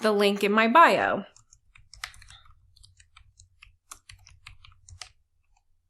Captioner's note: keyboard keys clicking